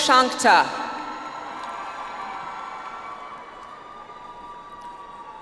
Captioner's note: audience applauds